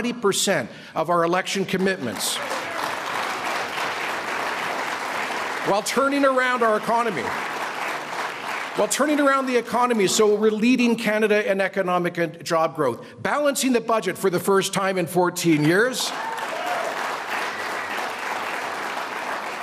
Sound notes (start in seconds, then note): 6.7 applause